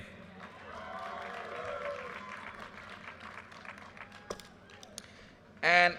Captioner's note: audience cheers and applause